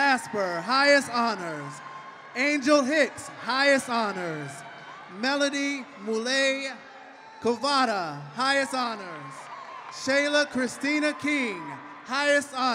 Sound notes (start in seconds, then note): 0.0 applause; 3.7 cheering